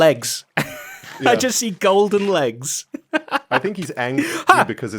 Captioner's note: laughs